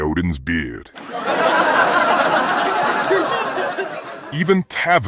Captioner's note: audience laughing